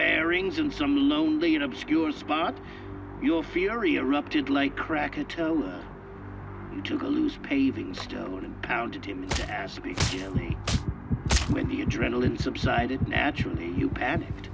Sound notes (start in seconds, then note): 9.9 blows landing; 9.9 heartbeat pounding